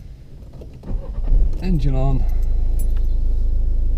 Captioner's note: car revs